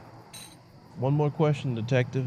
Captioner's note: change clinking